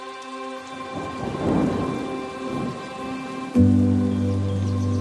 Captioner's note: thunder rumbling